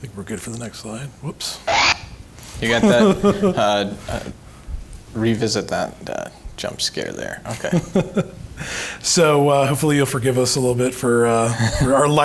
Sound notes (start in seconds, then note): 1.7 dinosaur growling laughs; 7.9 laughs